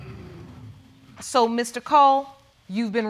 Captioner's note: audience exclaiming